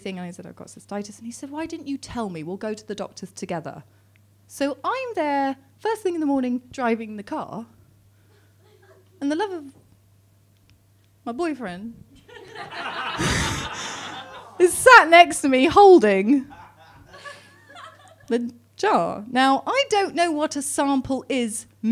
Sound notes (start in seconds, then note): 12.2 laughs